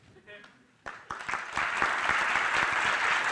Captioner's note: applause